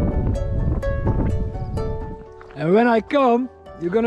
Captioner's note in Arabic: هبوب رياح